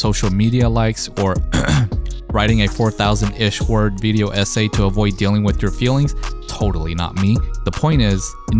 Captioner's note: ahem